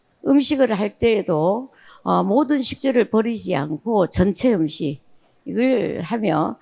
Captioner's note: speaking in foreign language